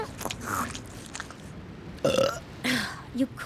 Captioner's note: belches; scoffs